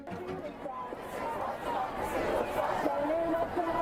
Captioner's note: crowd